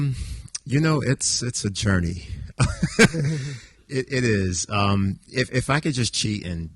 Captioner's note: laughs